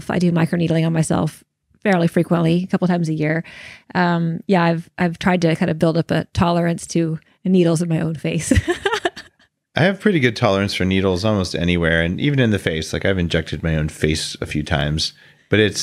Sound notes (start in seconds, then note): 8.5 laughs